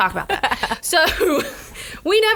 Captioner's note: laughs